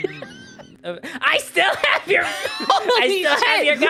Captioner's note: Timmy voice; laughing; Spongebob voice; laughing; Spongebob voice